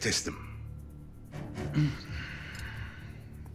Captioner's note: sigh